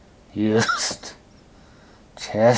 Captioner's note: coughing